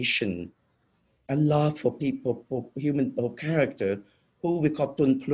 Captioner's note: speaking foreign language